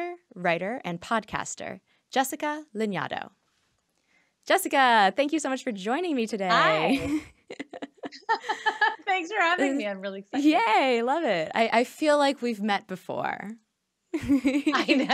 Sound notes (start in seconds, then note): 6.6 laughing; 14.2 laughing